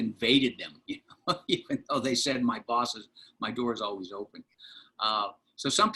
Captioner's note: laughter